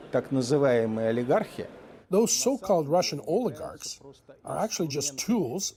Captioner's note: speaking Alternate Language